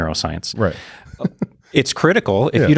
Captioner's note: laughs